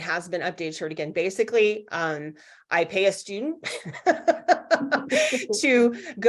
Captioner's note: laughs